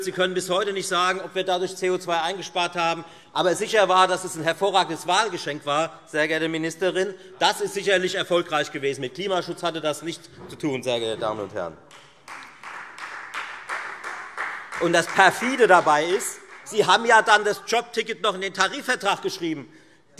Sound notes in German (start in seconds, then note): 11.9 Beifall Freie Demokraten